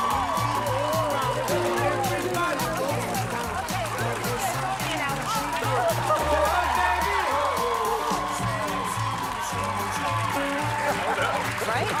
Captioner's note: cheers and applause